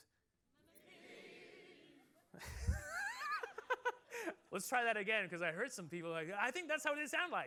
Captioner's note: laughter